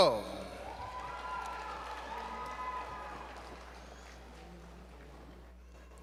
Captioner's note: applause